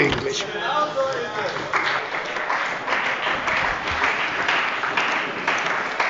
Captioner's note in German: Beifall bei der CDU und dem BÜNDNIS 90/DIE GRÜNEN